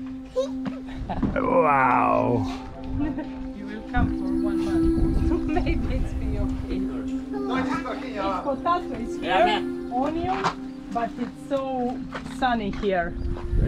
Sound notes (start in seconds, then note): 0.7 giggles; 3.9 people clamouring